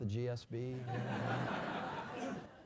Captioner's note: laugh